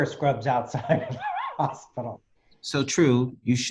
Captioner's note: laughs